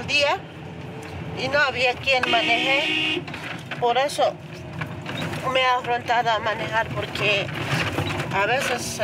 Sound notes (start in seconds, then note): 2.2 car horn honking; 4.5 speaking in foreign language